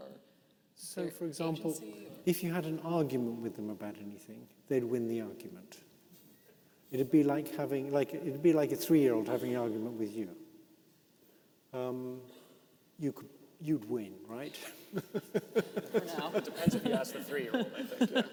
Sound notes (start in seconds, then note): 14.5 laughs